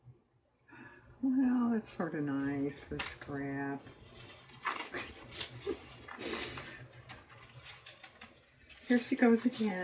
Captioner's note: laughs